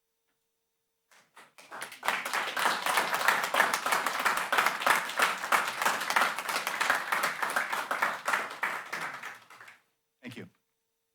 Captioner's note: applause